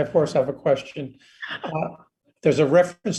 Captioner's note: laughs